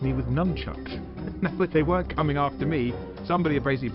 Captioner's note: chuckle